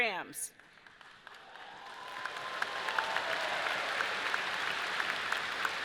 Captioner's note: audience cheering and clapping